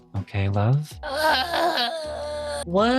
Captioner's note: crying